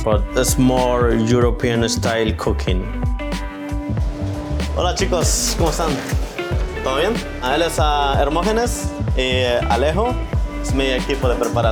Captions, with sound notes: but it's more European style cooking. [upbeat music] [speaks Spanish]